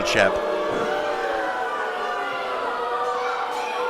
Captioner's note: audience booing